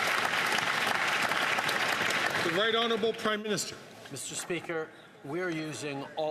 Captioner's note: some Applause